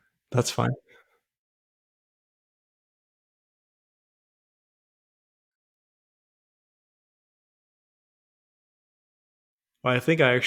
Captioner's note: silence